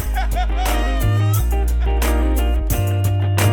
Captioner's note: laughing